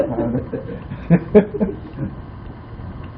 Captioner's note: laughing